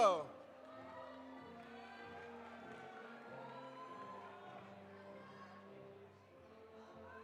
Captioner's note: audience applauding; audience cheering